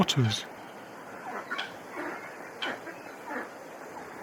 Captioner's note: ducks quacking